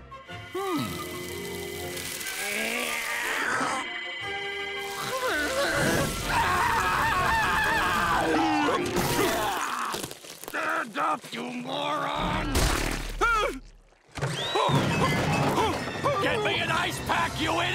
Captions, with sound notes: Hmm. Ow! [groaning] [screaming] Stand up, you moron! Ah! Huh? Get me an ice pack, you idiot!